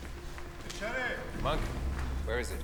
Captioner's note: speaking in a foreign language